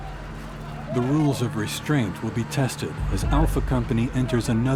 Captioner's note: voiceover